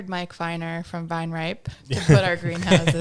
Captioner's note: laughing